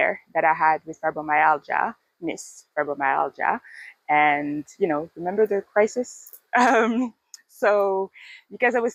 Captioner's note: laughs